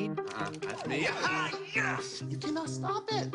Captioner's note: excited yelling